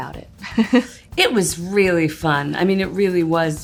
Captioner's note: laughs